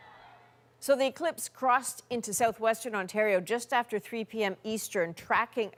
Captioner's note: cheers and Applause